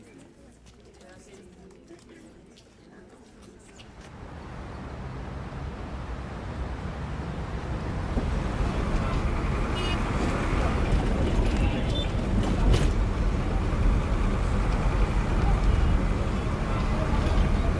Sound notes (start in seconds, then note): 0.0 background chatter; 9.7 honking